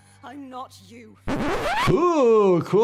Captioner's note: record scratching